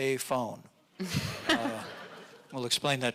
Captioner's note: audience laughing